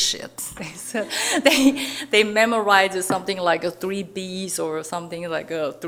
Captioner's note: chuckling